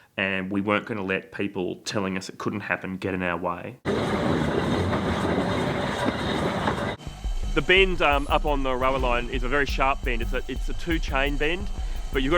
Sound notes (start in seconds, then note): 3.8 train gears running